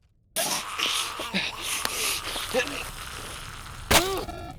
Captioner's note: Maddy growling